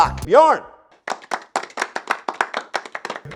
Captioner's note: clapping